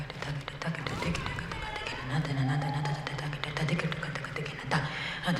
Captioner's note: audience cheering